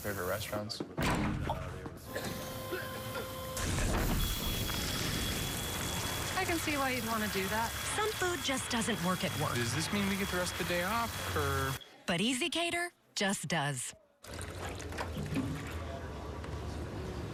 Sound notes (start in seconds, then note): 4.1 fire alarm beeping